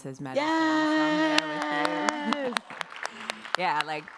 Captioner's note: audience applauding